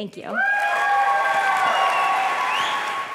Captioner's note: applause